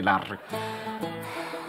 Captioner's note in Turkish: Nefes ses